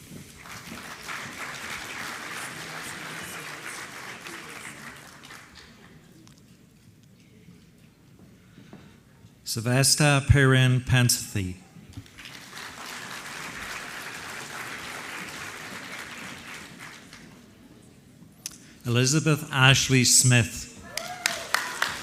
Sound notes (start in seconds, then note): 0.2 applause; 12.0 applause; 20.8 applause